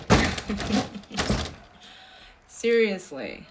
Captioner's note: giggling softly